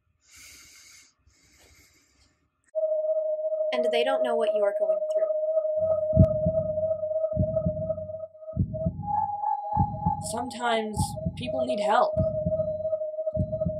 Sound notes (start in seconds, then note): 2.9 whirling wind tones; 5.7 ♥Heartbeat.♥; 5.7 whirling wind tones